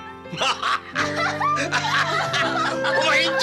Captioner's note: laughter